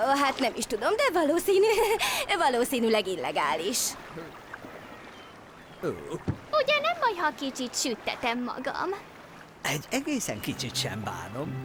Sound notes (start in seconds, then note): 2.4 laughs; 2.9 laughing